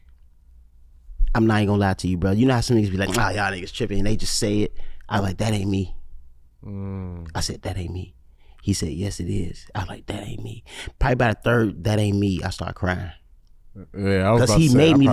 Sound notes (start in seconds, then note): none